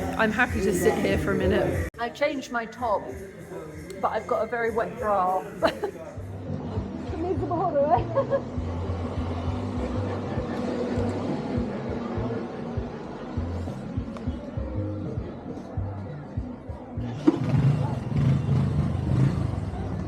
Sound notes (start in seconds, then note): 8.8 laughing; 16.8 engine noise